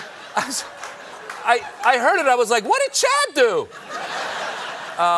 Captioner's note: laughter; laughter